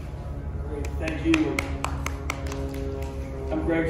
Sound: crowd clapping

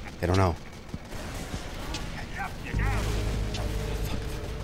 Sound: guns firing

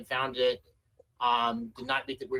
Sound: ~audio distortion~

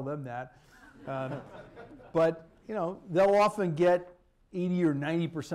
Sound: laughter

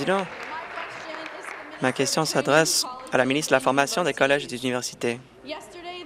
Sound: applause

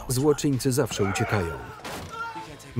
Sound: screaming

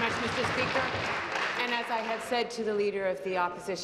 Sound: applause

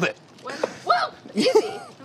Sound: laughs; yelps

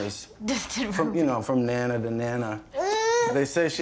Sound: laughs

